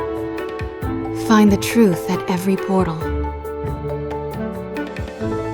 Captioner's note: voiceover